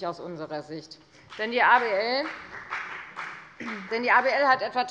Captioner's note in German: Beifall bei der FDP